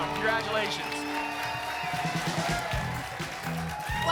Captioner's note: applause and cheering